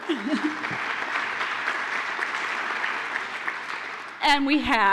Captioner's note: applause